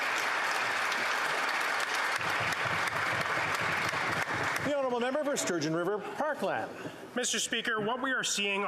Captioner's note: applause